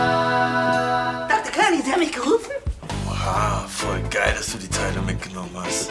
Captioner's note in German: none